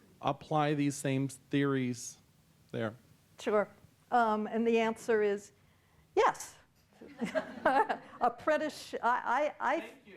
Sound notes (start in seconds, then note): 6.7 laughs; 7.2 audience laughing